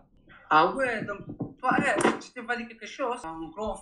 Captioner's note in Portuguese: Francês